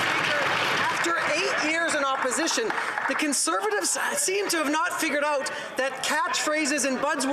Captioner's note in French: applaudissements; voix de l'interprète